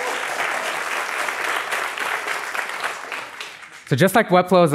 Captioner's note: applause